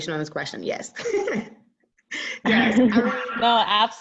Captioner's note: laughs loudly